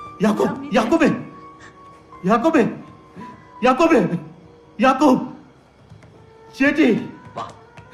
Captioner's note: sobbing